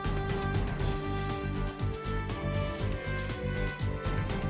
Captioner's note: none